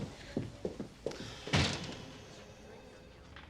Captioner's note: door slams